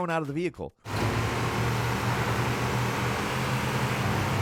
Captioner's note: engine roars